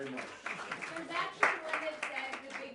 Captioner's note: applause